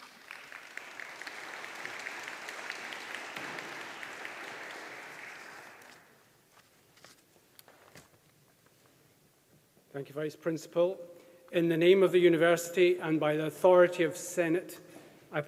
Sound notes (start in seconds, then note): 0.0 audience applauding